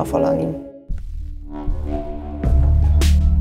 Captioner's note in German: Dröhnen; Treibende Musik